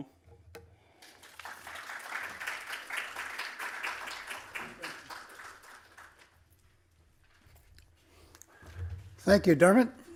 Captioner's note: applause